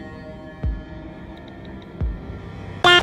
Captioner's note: typing